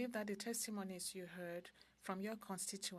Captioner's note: speaking french